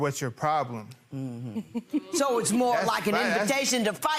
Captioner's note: laughing